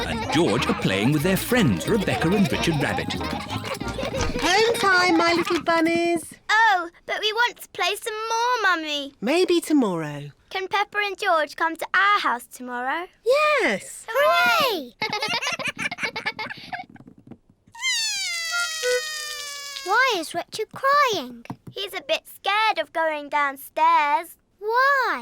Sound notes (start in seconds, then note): 17.8 cries